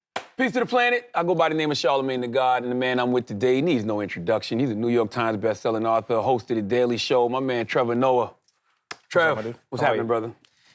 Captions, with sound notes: (claps) Peace to the planet. I go by the name of Charlamagne Tha God, and the man I'm with today needs no introduction. He's a New York Times best-selling author, host of The Daily Show. My man, Trevor Noah. (hands slap) - Trev. - What up, my dude? - What's happening, brother?